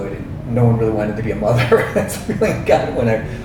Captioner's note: man laughs